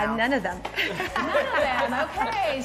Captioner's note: laughing